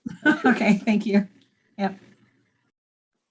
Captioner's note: laughs